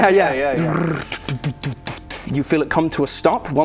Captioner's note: brrrrrr de-de-de---de----de-----dfff